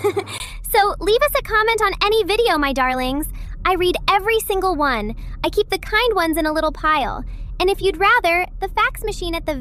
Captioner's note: laughs